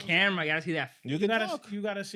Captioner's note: speaking In Foreign Language